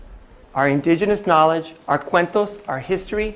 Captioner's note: non-english speech